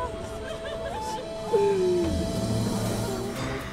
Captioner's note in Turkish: Müzik - Duygusal; Ağlama sesi